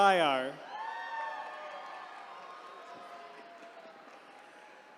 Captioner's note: attendees cheering